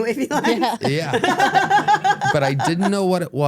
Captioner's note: laugh